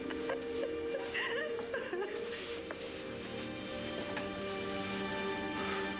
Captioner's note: viki sobs